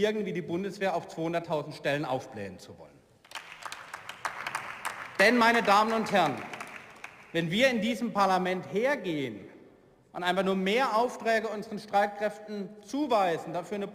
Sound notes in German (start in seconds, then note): 3.2 Beifall